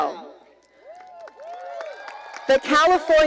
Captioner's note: cheering